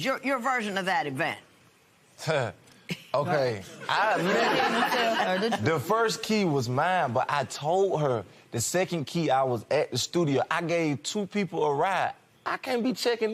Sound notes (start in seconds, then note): 4.1 chuckles; 7.5 laughter